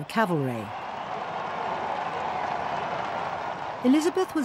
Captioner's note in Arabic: هتافات الجمهور